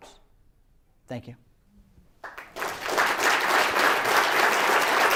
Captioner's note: applause